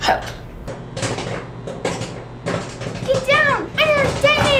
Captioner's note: popcorn popping